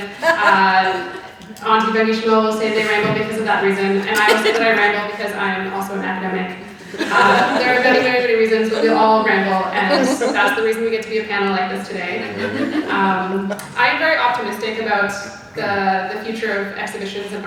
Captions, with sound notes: Auntie Bangishimo will say they ramble because of that reason. And I say that I ramble cause I'm also an academic. (audience laughing) There are very, very many reasons, but we all ramble and that's the reason we get to be a panel like this today. I'm very optimistic about the future of exhibitions,